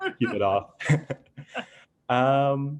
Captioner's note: laughter